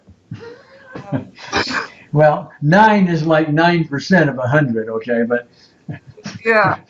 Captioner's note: chuckling